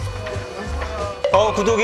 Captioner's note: A commotion